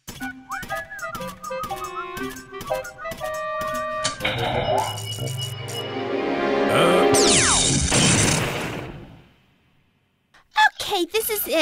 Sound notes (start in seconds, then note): 0.3 tuneless whistling; 4.1 powering up